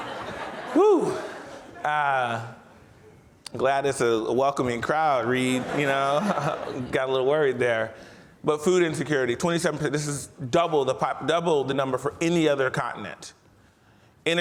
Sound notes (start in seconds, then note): 0.0 audience laughs; 5.5 chuckles